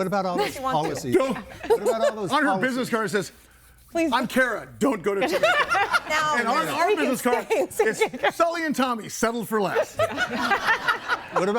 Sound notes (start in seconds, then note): 5.2 everybody laughing; 10.0 everybody laughing